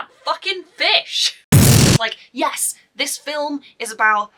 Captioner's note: explosion